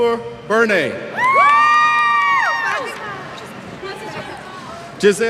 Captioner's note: cheers